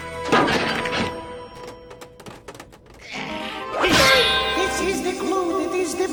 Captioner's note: clanking; crashing